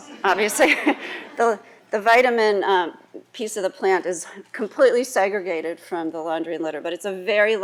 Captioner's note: laughs